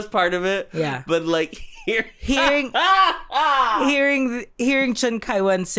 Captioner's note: guffaws